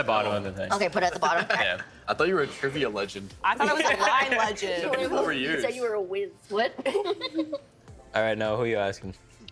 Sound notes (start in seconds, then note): 7.1 laughing